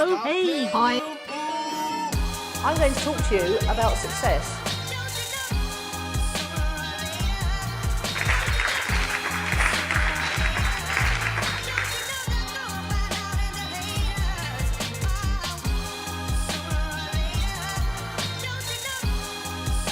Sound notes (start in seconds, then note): 2.8 hip hop music; 8.0 applause